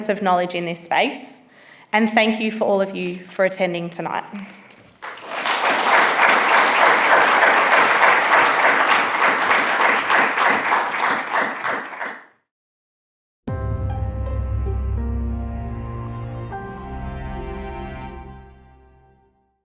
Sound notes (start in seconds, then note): 4.9 attendees applauding; 13.6 bright music